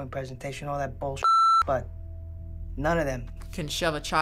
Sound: beep

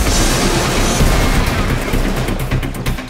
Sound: explosion

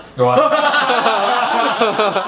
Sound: laugh

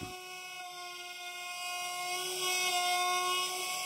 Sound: whirring

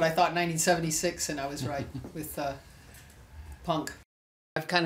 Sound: interviewer laughs

